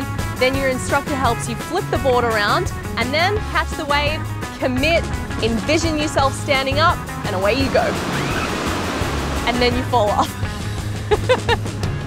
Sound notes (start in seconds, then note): 8.1 screams; 11.0 laughs